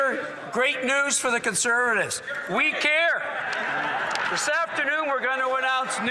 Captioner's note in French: voix de l'interprète